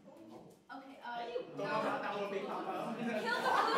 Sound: New Yorkers murmur in disagreement

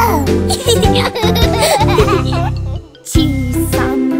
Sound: laughing

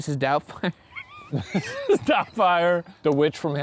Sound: laughing; laughs

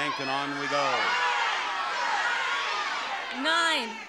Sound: audience shouting

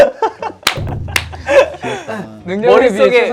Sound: giggle time

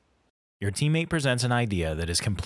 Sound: voiceover

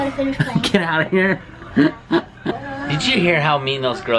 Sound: laughs

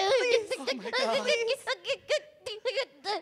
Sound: clucking

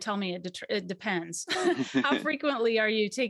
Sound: both laugh

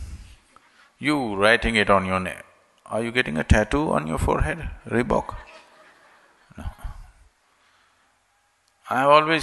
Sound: laughter

